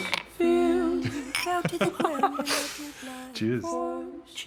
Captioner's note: both laugh